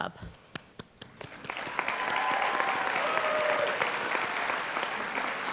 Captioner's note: applause